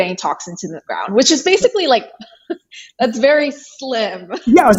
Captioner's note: chuckles